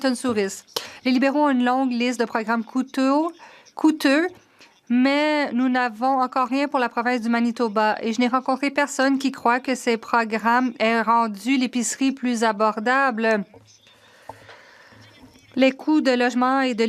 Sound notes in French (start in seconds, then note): 5.3 voix de l'interprète